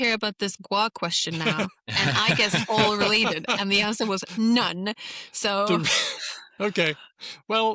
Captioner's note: laughter